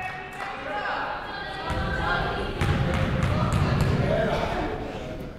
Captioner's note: people shouting in the crowd